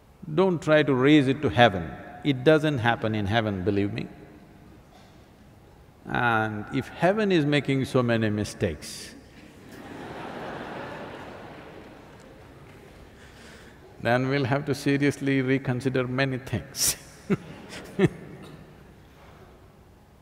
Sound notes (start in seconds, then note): 12.2 laughter; 17.3 laughs